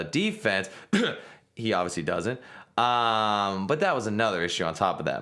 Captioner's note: sarcastic cough